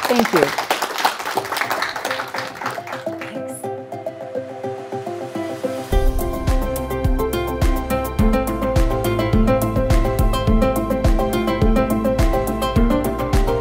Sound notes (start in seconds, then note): 0.0 applause